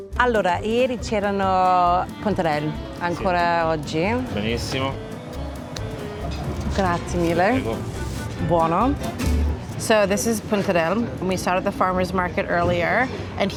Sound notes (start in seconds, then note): 0.2 speaks Italian; 6.8 speaks Italian